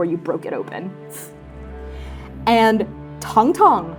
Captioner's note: scoffing